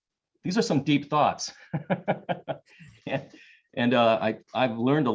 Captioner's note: laughs